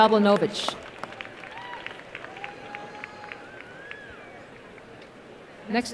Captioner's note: applause and cheering